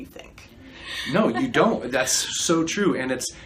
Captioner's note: chuckles